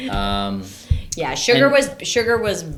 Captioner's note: laughing